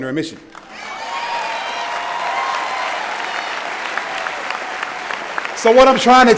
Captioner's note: cheering and Applause